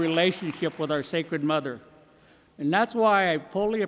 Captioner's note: applause